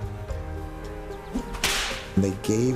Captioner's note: whip cracks